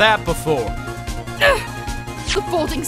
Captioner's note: grunts!